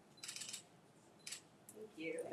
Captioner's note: camera clicking